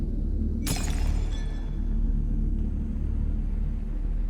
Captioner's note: prototype shatters